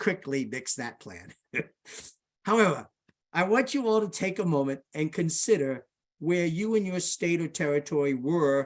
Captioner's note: laughs